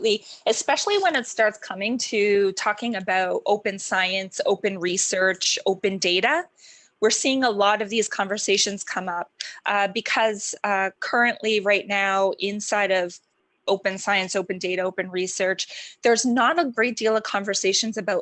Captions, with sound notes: >>: I just wanted to graduate you for a very, very good presentation. And I was just wondering for the information, any kind of application that you know of, and [audio distortion], do you know of any application of using.